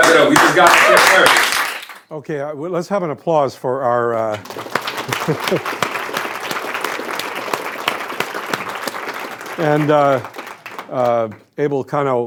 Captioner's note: applause